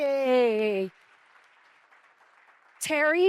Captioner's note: audience applauds